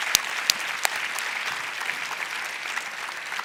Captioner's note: applause